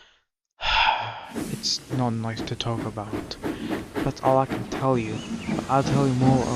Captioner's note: sigh